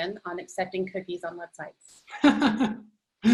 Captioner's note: laughing